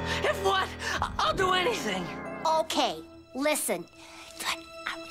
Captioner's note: whispering